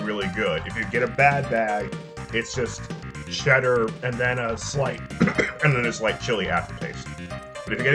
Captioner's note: cough